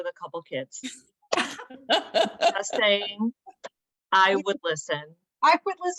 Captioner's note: laughter